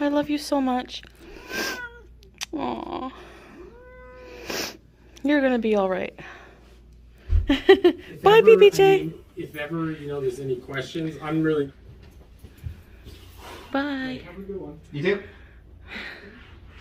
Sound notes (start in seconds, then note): 1.3 cat meows